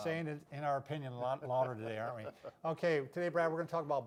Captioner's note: chuckling